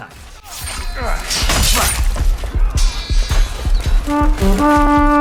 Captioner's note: swords clashing; trumpet blaring